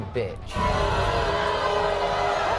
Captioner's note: audience booing